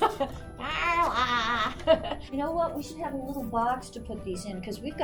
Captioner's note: laughs